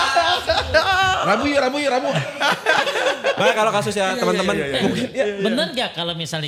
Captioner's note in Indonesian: tertawa